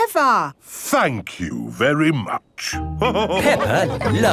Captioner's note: all laughing